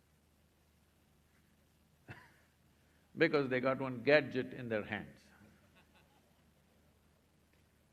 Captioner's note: laughs